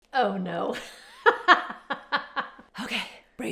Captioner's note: laughs